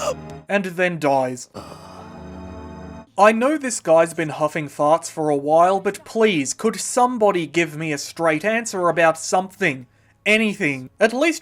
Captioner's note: sounds of dying